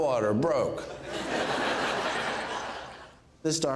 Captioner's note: crowd laughing